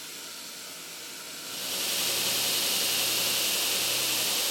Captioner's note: grinding sound